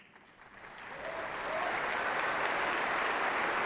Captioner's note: applause